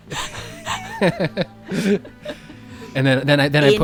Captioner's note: laughs